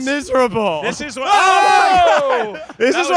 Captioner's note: all shouting